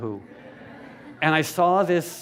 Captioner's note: laughter